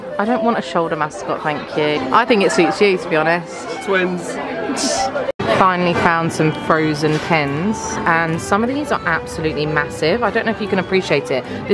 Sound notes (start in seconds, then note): 4.7 laughs